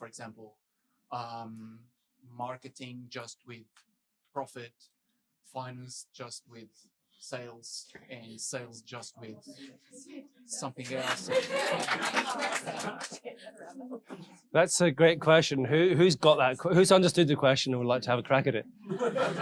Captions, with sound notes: for example, marketing just with profit, finances just with sales and sales, just with something else. (audience chattering and applauding) - That's a great question. Who's got that? Who understood the question and would like to have a crack at it?